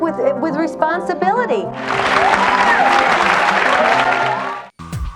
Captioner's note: audience applauds